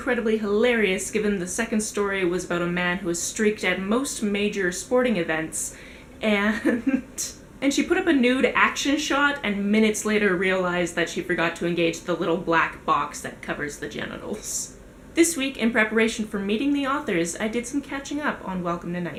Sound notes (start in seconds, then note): 6.4 giggles